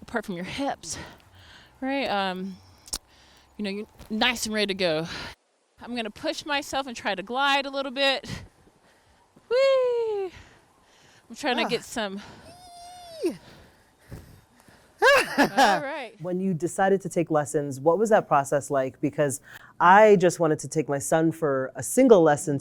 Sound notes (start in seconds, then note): 15.0 laughs